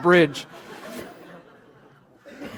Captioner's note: laughter